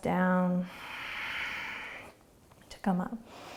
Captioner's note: exhaling